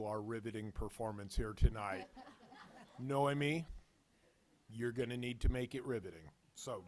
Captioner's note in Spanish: risas